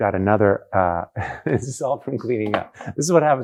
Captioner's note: laughing